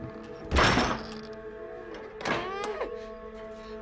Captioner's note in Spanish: Sonido al cerrar la reja; Gemidos